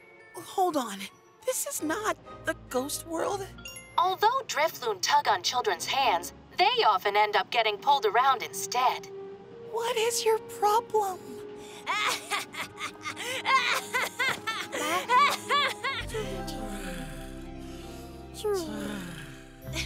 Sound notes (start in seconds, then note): 3.5 chimes; 11.8 laughing hysterically; 16.2 snoring; 19.7 chuckles